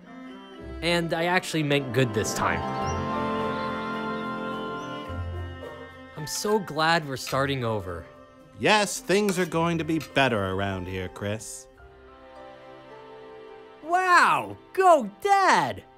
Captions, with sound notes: And I actually meant "good" this time. (birds chirp) - I'm so glad we're starting over. - Yes, things are going to be better around here, Chris. - Wow! Go Dad!